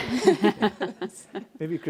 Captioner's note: panelists laughing